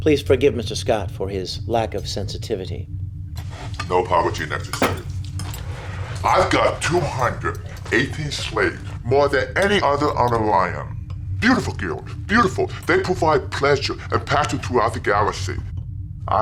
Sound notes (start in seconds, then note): none